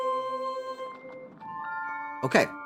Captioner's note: gentle Singing; affirmative Bell